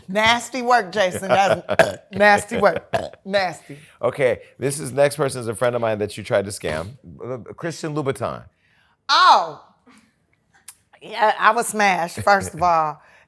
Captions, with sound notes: Nasty work, Jason. That is [BURPS] nasty work, [BURPS] nasty. OK, this next person is a friend of mine that you tried to scam, Christian Louboutin. Oh, yeah, I would smash, first of all.